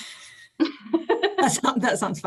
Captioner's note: laughs